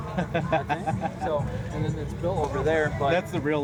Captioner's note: laughter